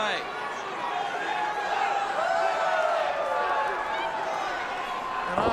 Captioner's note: crowd cheering